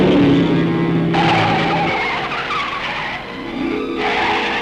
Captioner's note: tires screeching